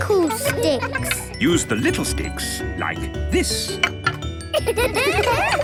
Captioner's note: laughter